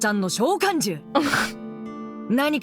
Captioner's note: chuckles